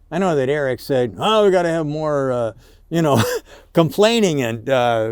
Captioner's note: chuckles